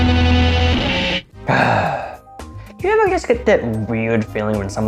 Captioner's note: sighs